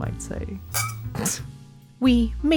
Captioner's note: scoffs; glasses clink